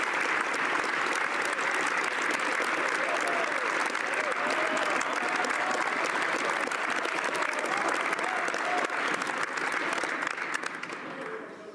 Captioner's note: applause